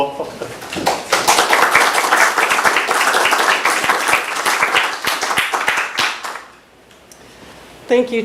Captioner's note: applause